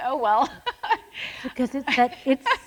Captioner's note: laughs